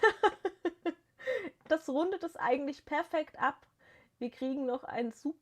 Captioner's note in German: gelächter